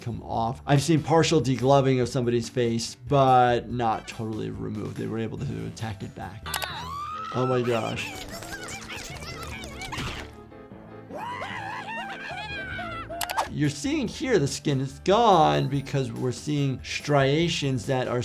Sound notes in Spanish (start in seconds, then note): 11.1 Flaky grita; 11.1 el grupo grita